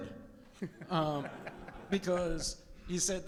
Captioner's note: audience laughs